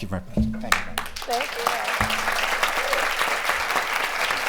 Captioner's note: applause